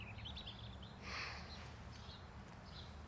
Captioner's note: gloria sighs